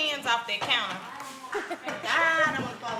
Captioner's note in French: gloussements